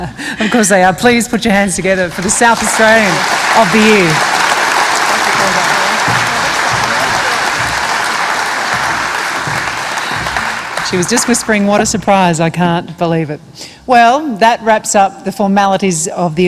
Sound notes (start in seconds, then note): 2.7 laughs; 8.8 applause